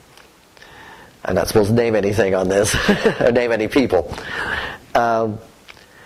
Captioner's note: laughter